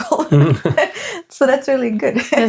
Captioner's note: laughing